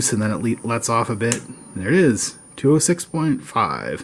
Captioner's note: click